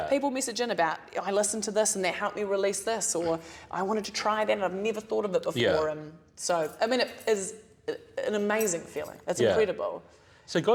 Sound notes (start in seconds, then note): none